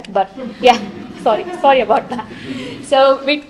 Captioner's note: chuckling